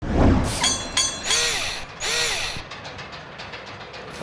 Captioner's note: mechanical SFX